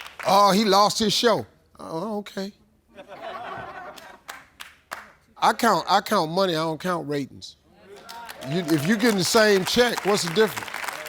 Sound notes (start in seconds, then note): 3.0 audience laughing